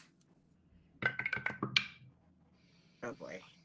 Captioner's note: dice roll